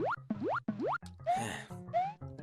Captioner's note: sigh